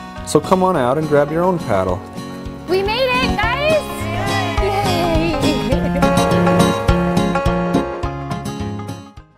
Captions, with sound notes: So come on out and grab your own paddle. "We made it!" *all cheering*